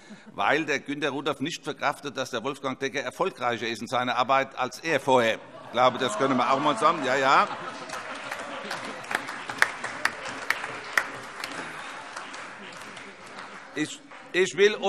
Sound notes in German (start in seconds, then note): 7.5 Heiterkeit und Beifall - Zuruf